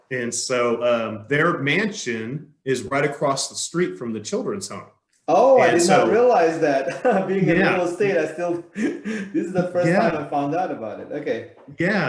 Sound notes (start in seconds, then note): 5.6 laughs